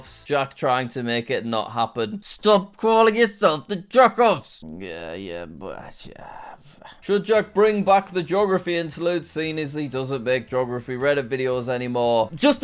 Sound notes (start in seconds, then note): 4.6 grumbling